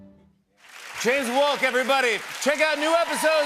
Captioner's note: cheers and applause